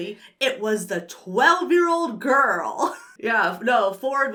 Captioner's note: chuckles